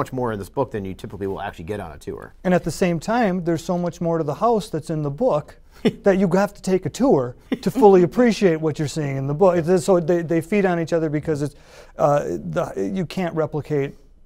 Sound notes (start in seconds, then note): 7.5 laughter